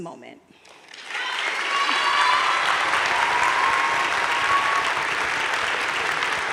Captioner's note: audience cheering and applauding